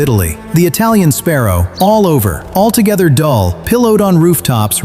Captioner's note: calm documentary tone